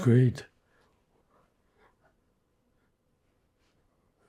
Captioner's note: pauses 6 seconds